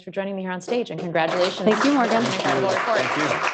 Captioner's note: applause